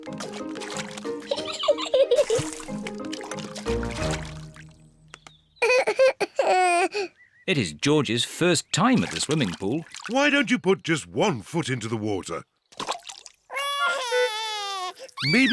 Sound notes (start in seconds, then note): 1.2 giggles; 5.6 cries; 13.5 cries